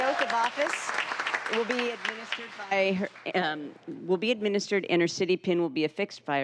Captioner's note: applause